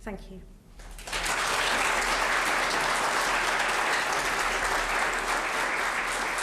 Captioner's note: applause